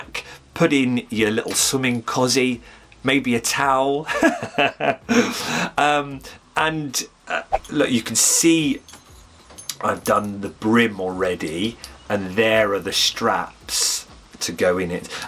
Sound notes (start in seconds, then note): 4.0 giggle